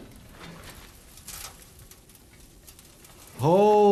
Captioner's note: flesh and metal sizzles